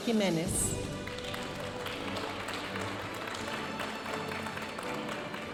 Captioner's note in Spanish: aplausos de la audiencia